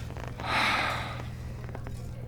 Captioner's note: sigh